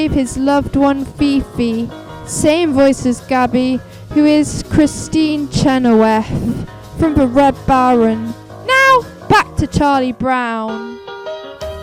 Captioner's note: same voice as Gabi who is Kristin Chenoweth